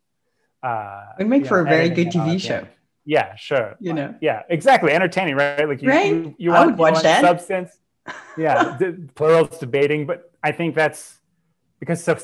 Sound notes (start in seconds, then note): 8.1 laughs